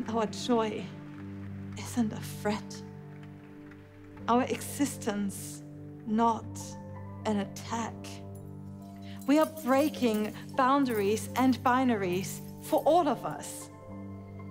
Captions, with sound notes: And our joy...isn’t a threat. Our existence...not an attack. [glass pieces jingling] We are breaking boundaries [glass pieces jingling] and binaries for all of us.